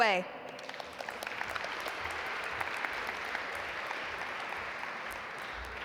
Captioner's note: audience applaud